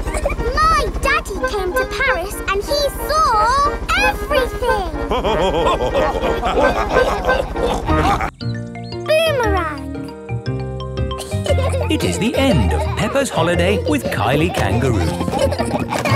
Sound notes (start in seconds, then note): 0.1 chuckles; 5.0 all laughing; 16.0 children laughing